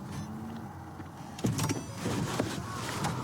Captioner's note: car door opens